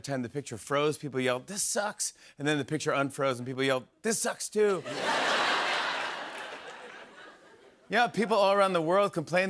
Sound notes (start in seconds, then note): 4.8 laughter